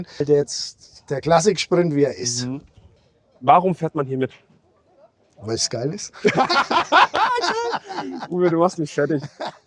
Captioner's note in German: gelächter